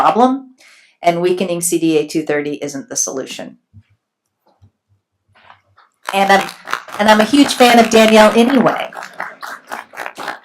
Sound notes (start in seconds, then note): 5.9 applauding